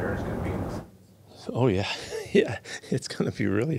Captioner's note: chuckles